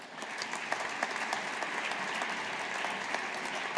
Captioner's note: audience applauding